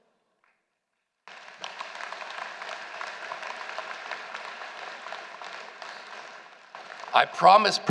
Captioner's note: applause